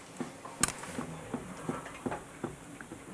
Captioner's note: soft knocking